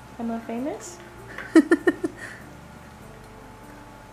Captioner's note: laughs